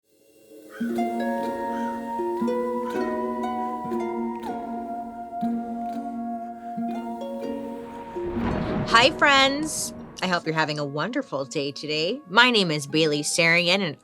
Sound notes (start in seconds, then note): 0.6 bird cawing; 0.8 mysterious music; 7.6 thunder rumbles